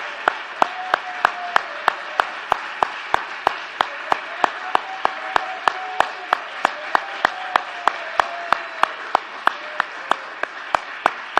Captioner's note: applause